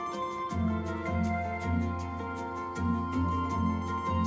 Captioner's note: insects buzzing